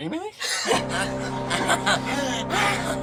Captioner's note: excited gasps and laughter